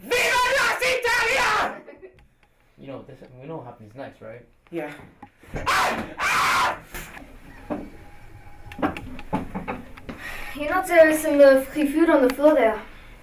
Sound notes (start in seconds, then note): 5.6 screams